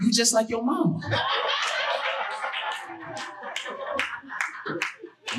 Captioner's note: audience laughing